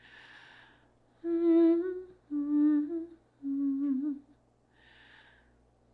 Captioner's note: instructor continues humming